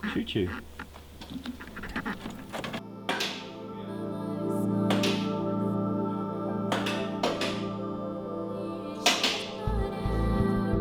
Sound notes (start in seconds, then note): 3.1 car lifter clicks